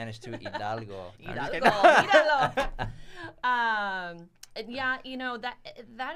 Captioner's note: laughs